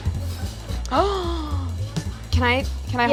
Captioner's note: gasps